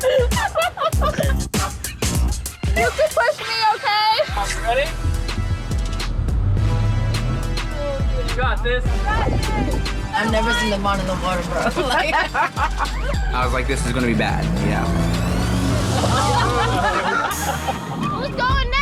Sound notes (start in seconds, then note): 0.0 woman laughing; 0.2 upbeat funky music; 11.6 woman laughing; 16.7 group laughing